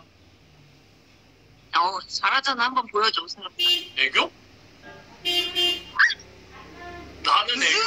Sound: laughs out loud

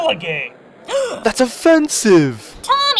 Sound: gasp

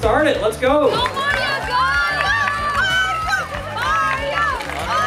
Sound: crowd cheering

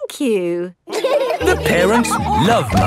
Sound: all laughing

